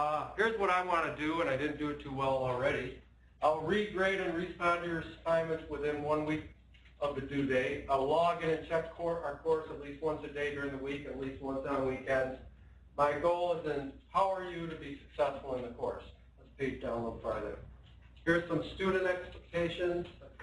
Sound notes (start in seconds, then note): none